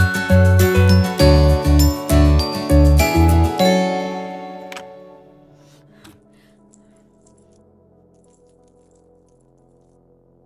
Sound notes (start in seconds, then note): 4.0 lock opening